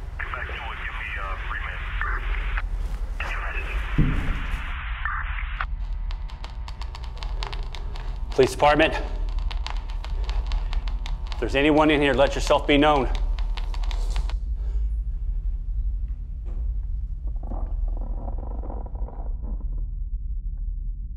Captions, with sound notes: (police radio chatter) (bump echoes) Police department, if there's anyone in here, let yourself be known. (coffin creaks)